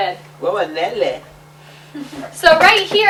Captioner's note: non-english